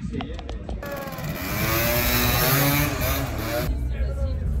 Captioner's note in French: bruit de scooter qui cabre